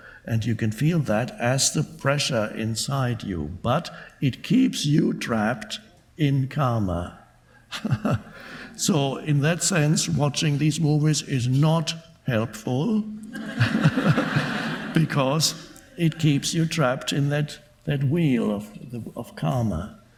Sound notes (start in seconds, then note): 7.7 laughing; 13.3 audience laughing